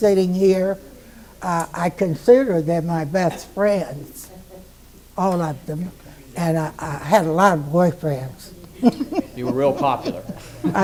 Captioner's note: laughs